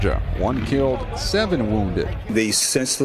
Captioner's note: gunshots